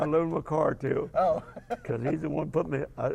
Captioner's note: laugh